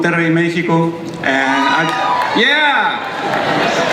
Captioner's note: crowd cheers